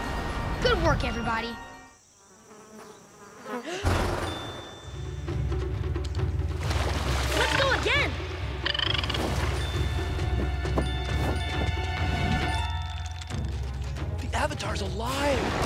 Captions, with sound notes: Good work, everybody. [buzzing] Let's go again. [chirping] The Avatar's alive.